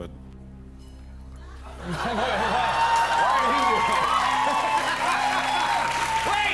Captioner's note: cheers and applause